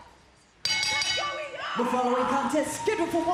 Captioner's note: bell ringing